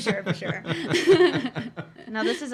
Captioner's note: laughing